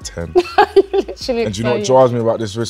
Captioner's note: laughs